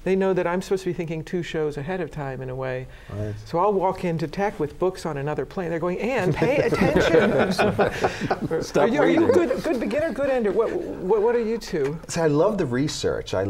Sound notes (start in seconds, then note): 6.3 laughter